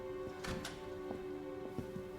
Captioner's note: door opens